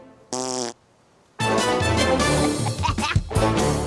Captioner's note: both laugh